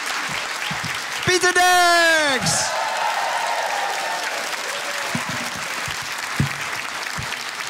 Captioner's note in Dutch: applaus en gejuich